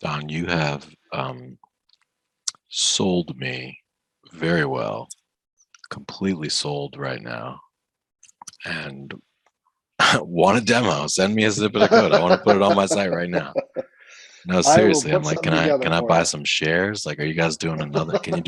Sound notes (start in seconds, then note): 11.4 laughing; 11.5 laughs